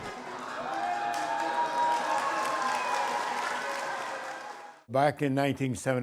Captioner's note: crowd cheering and clapping